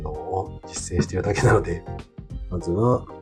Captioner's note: laughs